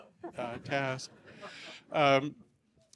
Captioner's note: laughter